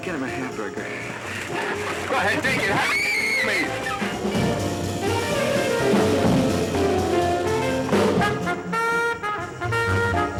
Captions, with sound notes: Get him a hamburger. (screaming) Go ahead, take it! Take it, please. (frantic percussive jazz music)